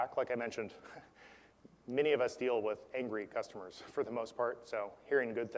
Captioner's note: laugh